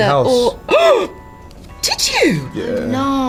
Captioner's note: gasps